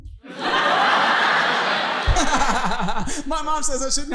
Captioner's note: audience laughing